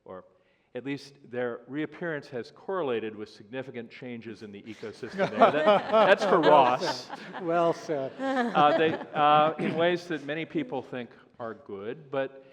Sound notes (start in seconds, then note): 4.8 laughter